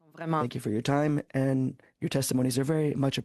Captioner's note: speaking French